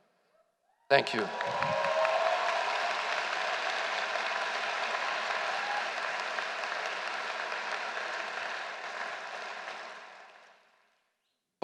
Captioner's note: applause